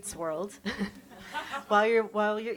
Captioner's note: chuckles